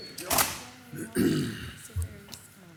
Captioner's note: faintly speaking